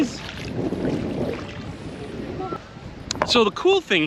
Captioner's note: water splashing